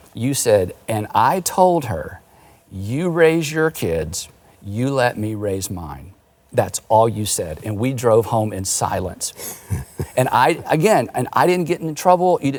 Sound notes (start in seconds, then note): 9.4 laughing